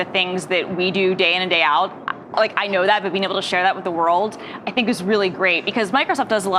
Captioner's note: none